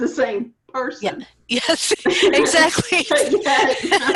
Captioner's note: laughs